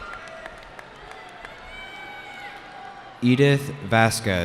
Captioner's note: cheering